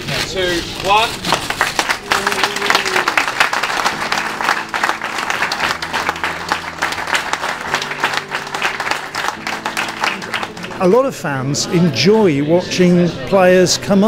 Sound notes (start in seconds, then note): 8.6 clapping